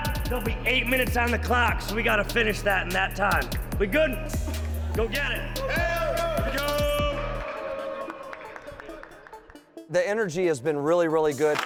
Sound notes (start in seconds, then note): 4.7 team cheering